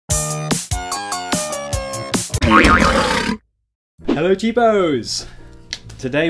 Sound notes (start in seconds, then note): 0.2 cheerful music; 2.4 sproings; 2.4 lion roars